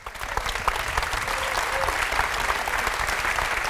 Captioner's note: applause